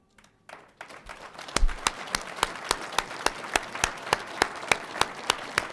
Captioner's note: audience applauding